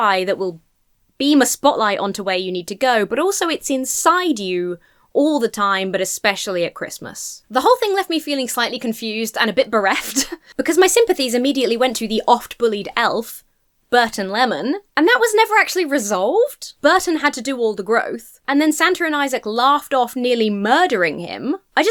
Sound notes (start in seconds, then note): 9.9 laughs